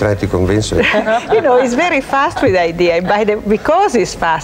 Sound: laughs

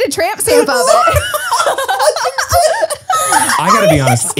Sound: everyone laughs

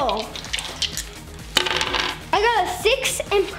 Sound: jangling

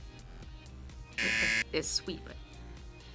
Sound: buzzer

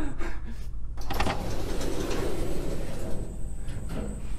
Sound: door opens

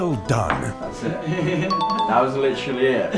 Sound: laughs; chimes

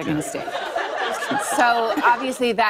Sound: laughter

